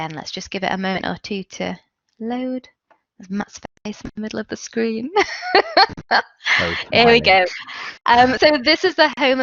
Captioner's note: laughs